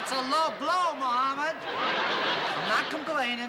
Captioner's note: laughter